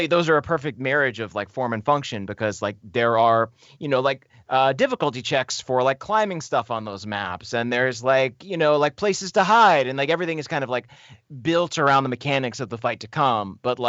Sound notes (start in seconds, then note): none